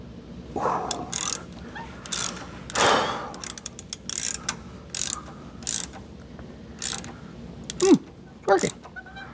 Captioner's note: metal Clanking